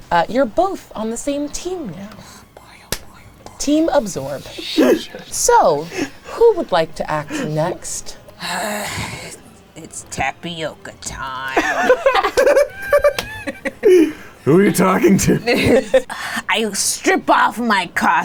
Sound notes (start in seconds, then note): 2.9 hands slap; 8.4 sighs heavily; 11.5 group laughing